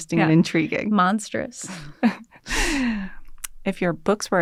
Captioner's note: laughter